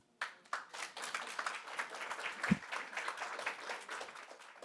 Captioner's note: audience applauding